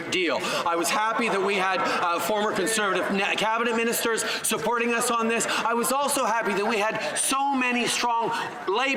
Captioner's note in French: voix de l'interprète